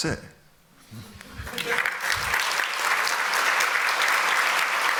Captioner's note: applause